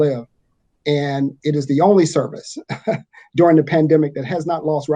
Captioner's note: chuckles